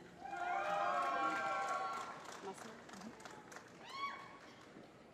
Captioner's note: applause